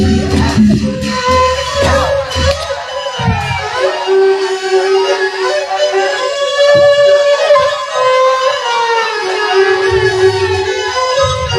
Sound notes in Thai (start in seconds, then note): 0.9 ปรบมือ